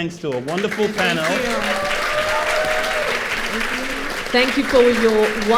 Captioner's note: applause